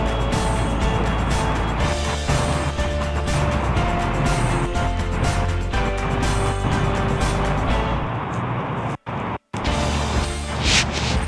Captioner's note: background noise, broken by audio dropout